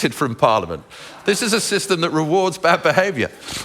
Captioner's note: laughs